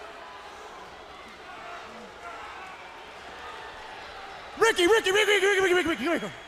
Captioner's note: crowd cheering